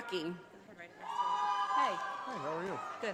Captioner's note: audience applauding